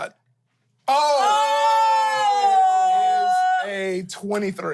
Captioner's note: everyone yells